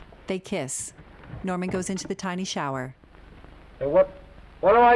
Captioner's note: door thudding closed